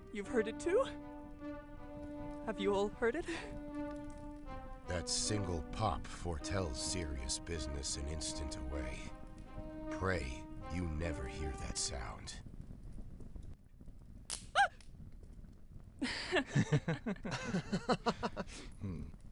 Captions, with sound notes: You've heard it, too? Have you all.. heard it? That single pop foretells serious business an instant away. Pray you never hear that sound. *snap* *yelp!* *laughter*